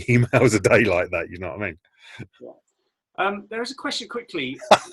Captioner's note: laughing